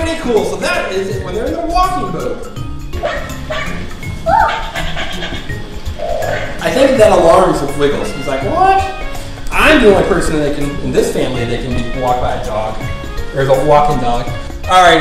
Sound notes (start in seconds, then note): 3.0 barking; 4.2 light scream; 4.5 dog panting